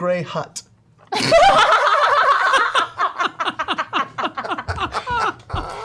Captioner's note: laughter